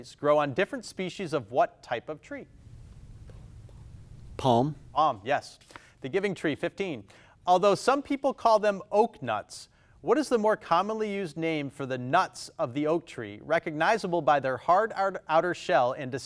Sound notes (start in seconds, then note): none